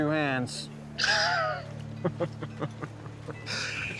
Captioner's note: laughs